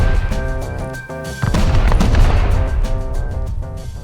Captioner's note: boom; boom boom